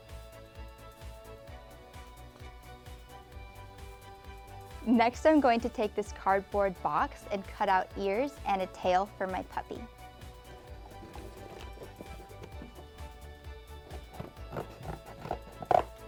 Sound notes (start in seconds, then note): 10.2 scissors cutting cardboard; 10.2 soft upbeat music